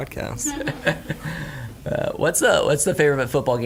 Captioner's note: laughing